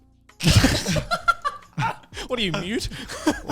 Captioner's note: men laugh